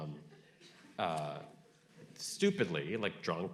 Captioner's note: audience laughing